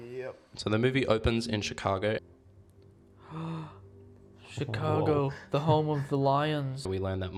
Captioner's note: gasp